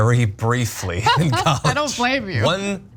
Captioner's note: laugh